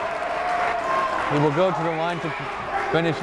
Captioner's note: clapping; cheering